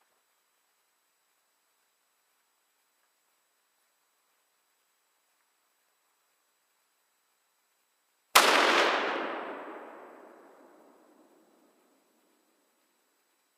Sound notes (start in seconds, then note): 8.3 gunshot